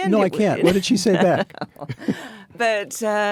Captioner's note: Anna and David laugh